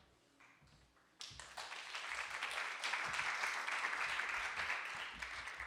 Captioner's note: audience applauding